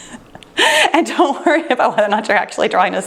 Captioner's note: chuckles